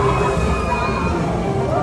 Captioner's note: screams